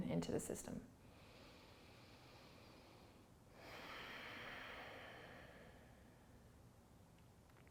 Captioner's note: breathing